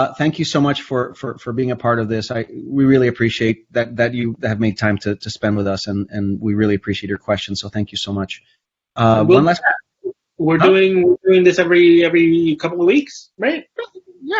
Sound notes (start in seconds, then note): 9.0 Jose's mic warbles